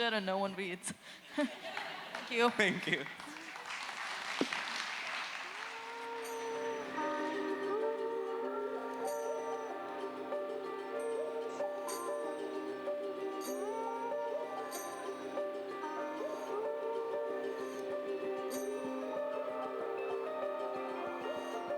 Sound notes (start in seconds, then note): 11.8 applause